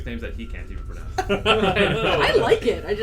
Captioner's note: laughter